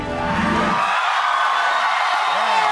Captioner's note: applause